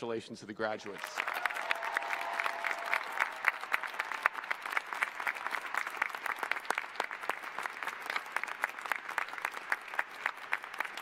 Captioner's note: applause